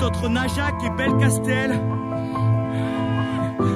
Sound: cries of pain

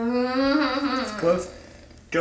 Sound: whimpering

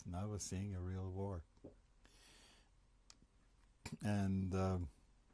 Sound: pauses for 3 seconds

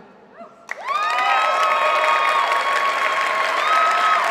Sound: applause

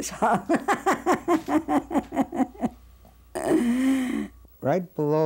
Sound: laughing

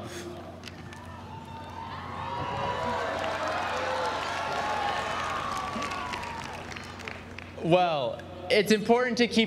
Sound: applause

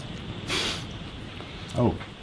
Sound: snorts unsurely

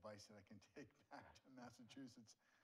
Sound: chuckles

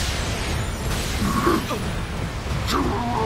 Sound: grunt A gasps; Heatran groans; Heatran roars

